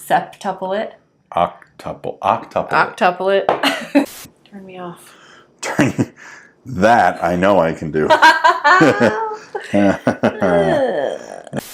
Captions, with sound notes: Septuple it. Octuple it. Turn me off. Turn you... That, I know I can do. [laughing] [sigh]